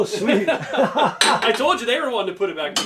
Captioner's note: both laugh